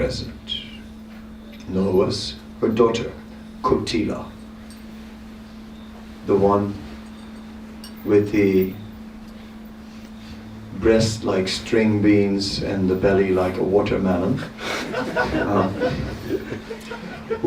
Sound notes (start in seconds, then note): 14.5 laughter